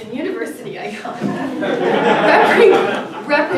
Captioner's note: audience laughing